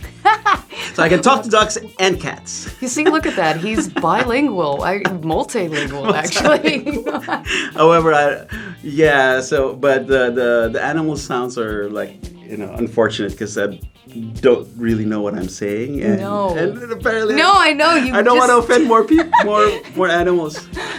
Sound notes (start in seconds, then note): 5.7 laugh; 20.5 laugh